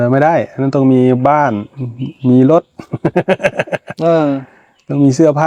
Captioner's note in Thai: เสียงหัวเราะ